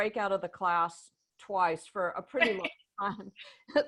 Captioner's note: laughter